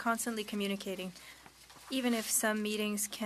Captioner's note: speaking French